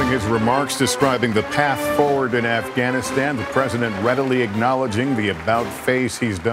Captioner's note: applause